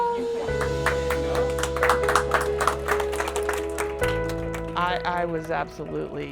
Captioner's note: cheers and applause